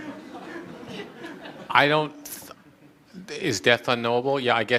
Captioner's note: audience laughter